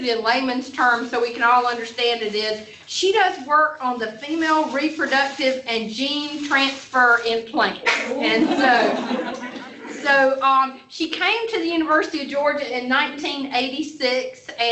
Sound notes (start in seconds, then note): 7.8 laughter